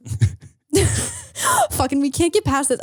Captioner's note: both laughing